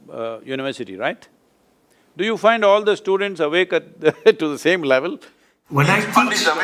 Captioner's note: laughs